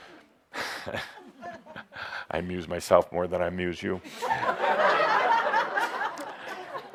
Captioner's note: chuckles; laughter